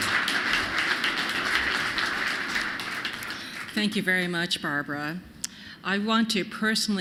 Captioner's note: applause